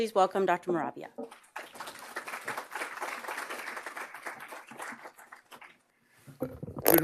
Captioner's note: applause